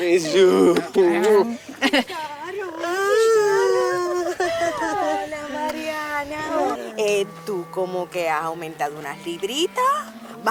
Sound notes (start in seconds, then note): 1.6 Wilma laughs; 2.5 mocking laughter